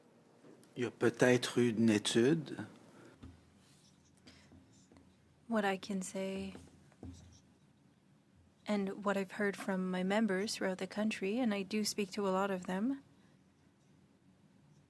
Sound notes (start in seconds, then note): 10.0 speaking French